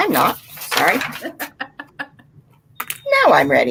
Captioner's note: laughing